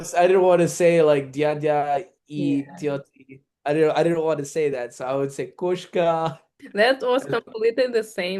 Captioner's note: russian